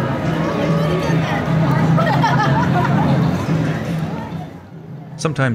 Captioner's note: ambient parade and city sounds